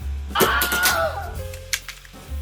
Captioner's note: Willhelm scream